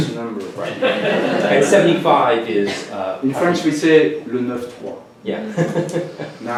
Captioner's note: french